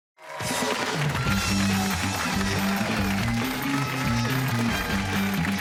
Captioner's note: cheers and applause